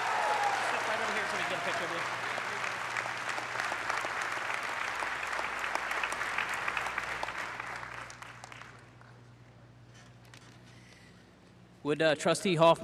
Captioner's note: cheers and applause